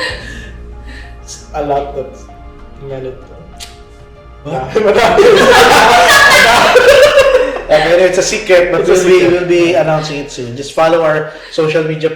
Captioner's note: laugh